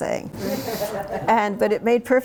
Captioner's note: laughter